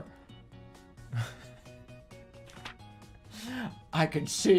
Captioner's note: giggling